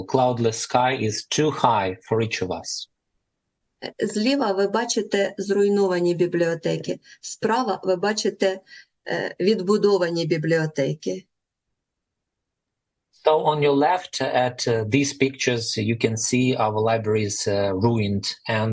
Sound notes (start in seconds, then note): 3.0 foreign language